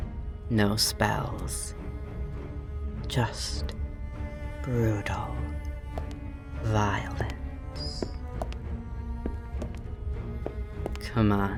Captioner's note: more circling footsteps